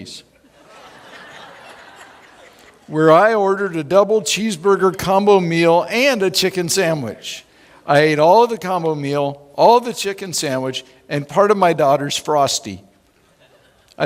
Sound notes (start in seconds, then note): 0.5 laughing